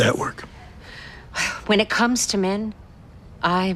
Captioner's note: sighs